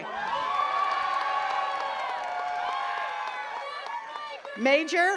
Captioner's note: attendees cheering and clapping